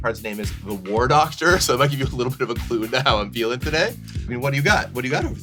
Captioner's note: laughing